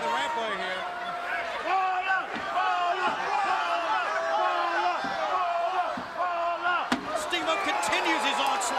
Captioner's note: crowd cheering